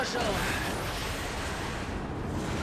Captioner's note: rumbling